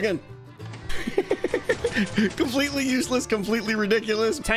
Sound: giggles

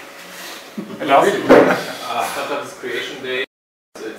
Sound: laughing

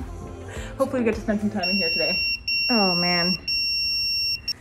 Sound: pager beeping

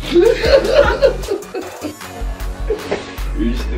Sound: laughter

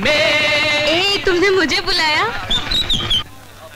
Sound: brakes squeal

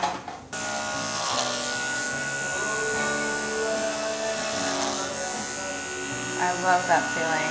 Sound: buzzing sounds

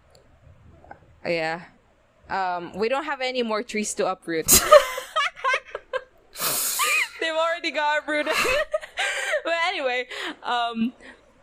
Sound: both laughing

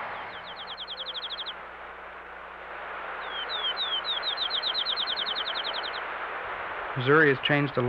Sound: birds chirping

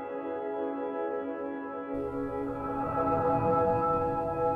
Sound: machine beeping

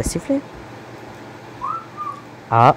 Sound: whistles

